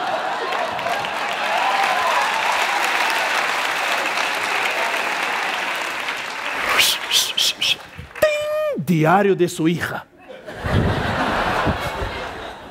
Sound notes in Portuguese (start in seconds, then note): 8.2 efeitos sonoros